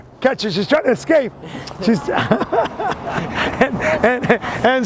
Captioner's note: laughs